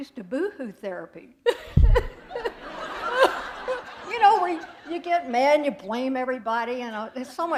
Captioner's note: laughter